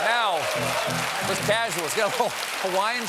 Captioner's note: cheers and applause